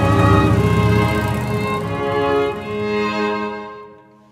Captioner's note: motorbike revving